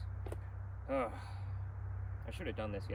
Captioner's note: sighing